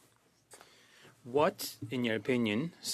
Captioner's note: speaking French